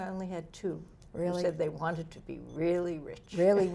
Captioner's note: laughs